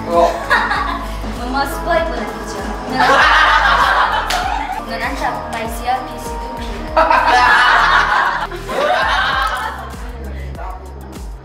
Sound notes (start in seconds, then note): 2.9 everybody laughs out loud; 6.9 everybody laughs out loud